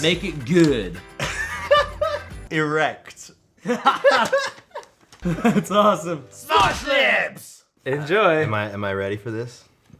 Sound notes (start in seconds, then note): 1.2 laughs; 3.6 both crack up; 5.5 while laughing